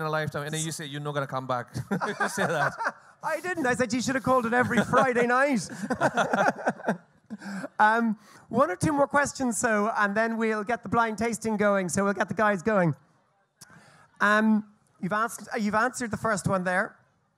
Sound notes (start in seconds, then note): 1.7 both laugh; 7.0 both laugh